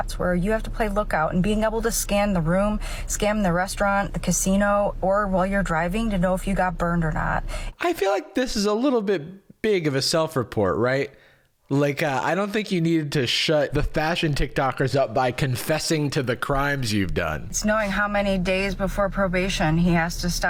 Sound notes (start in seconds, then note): none